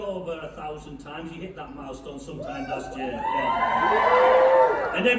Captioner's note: whoop